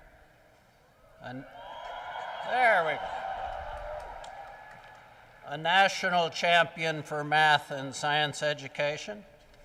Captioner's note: cheering